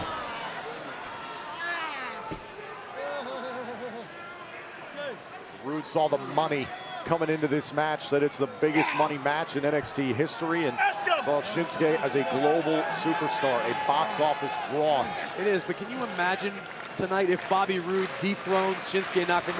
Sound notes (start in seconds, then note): 8.0 crowd chatter